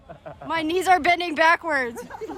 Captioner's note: laughing